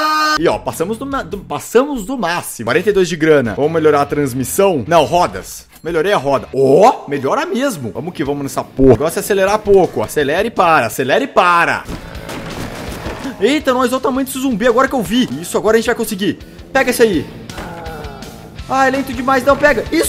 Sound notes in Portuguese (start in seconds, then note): 11.8 BUM TIM TIM BURUM, carro batendo nas coisas; 16.6 IHHAARR, barulho do zumbi